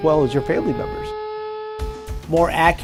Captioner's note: siren